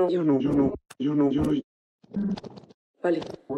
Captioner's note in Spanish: voz distorsionada